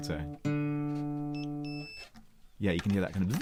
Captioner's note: beep Beeeep